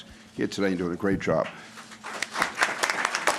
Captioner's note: applause